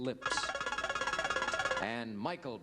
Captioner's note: buzzer beeps